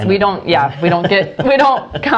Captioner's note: laughs